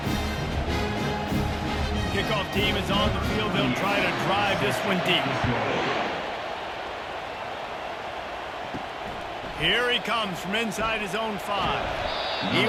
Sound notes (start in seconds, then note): 6.0 cheering